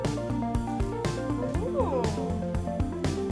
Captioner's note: interested noise